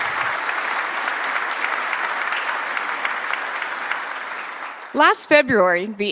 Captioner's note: applause